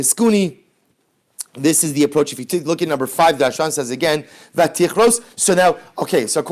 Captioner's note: Hebrew